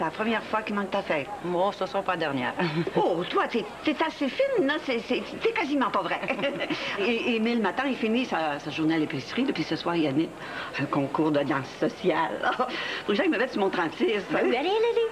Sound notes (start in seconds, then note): 6.0 Rires